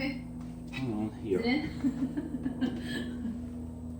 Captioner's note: laughing